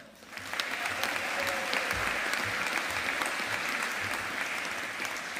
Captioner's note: audience applauding